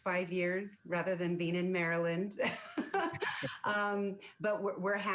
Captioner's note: laughs